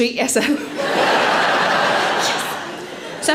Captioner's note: audience laughing